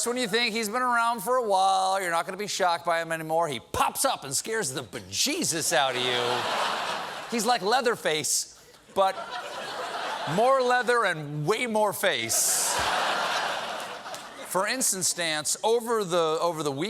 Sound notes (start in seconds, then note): 8.9 laughter; 12.4 laughter